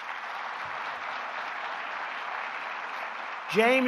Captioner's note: applause